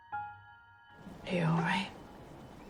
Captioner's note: voiceover